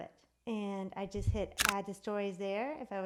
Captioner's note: clicks